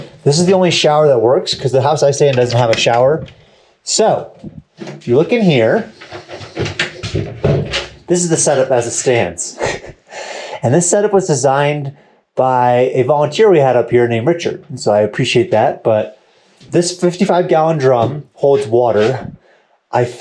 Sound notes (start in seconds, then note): 6.8 door closing; 9.5 chuckling